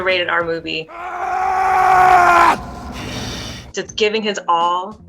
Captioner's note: Wolverine screams